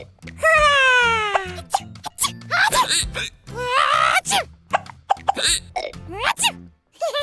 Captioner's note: laughs; sneezes; hiccuping, sneezing; laughs